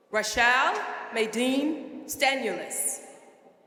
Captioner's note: none